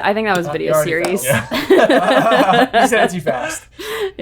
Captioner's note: all laughing